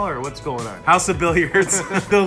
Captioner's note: laughs